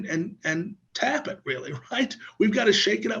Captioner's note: laughs